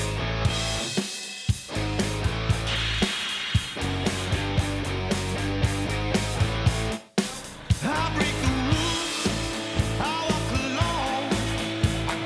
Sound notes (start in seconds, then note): 2.8 metal clanging; 3.9 hard rock music